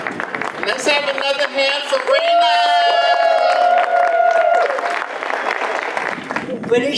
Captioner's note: audience applause; more applause